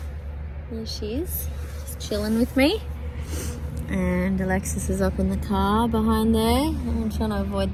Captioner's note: sniffs